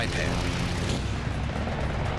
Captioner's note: gunfire